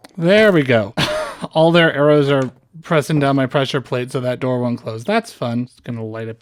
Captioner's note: scoff